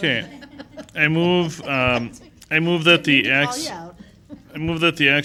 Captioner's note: laughter